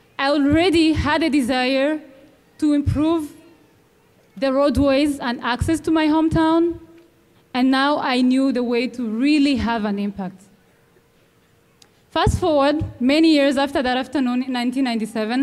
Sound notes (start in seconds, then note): none